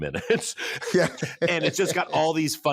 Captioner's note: chuckles; laughs